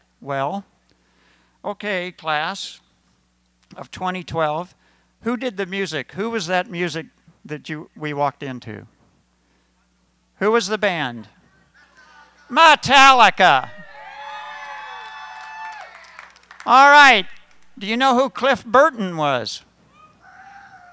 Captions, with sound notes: Well, okay, class of 2012, who did the music -- who was that music that we walked into? Who was the band? Metallica! [Cheering] All right. Do you know who Cliff Burton was?